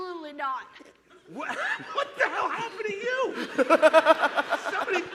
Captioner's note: laughter